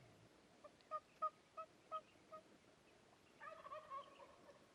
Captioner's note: turkey calling